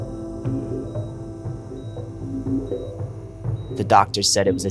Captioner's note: heart monitor beeping